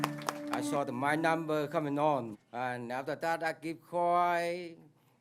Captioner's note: applause